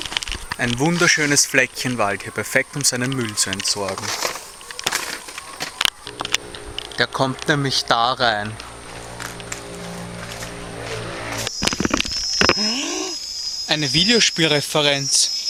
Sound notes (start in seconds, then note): 12.6 gasp